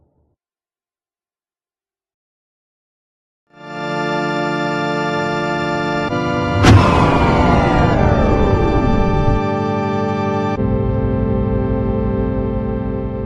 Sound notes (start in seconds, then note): 6.2 power shuts off